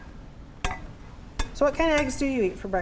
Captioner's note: tapping